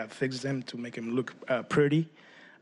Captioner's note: speaking spanish